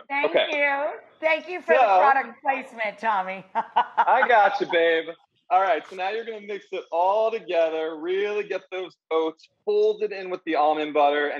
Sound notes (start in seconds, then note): 3.5 laughing